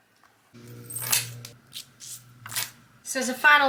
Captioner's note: gold necklace clings